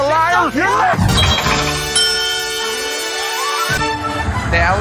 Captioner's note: epic victory sound